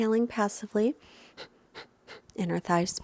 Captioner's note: exhaling loudly